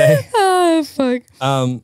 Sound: laughs

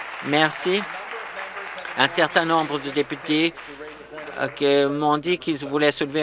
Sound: applause

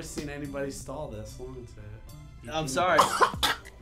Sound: gagging; spitting

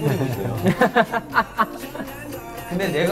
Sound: laughing

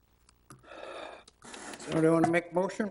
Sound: sighs

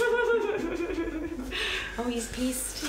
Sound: chuckles

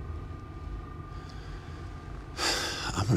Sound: sighs

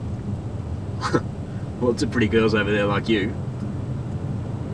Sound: chuckles

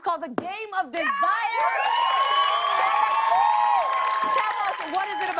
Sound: cheers and applause

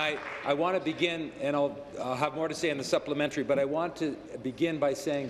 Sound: applause

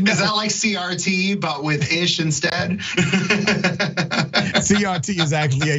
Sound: laugh

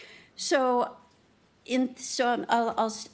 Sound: none

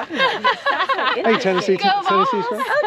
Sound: laughing amusingly

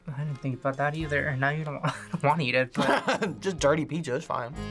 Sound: laughs

